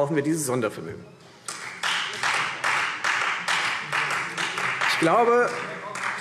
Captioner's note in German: Beifall Freie Demokraten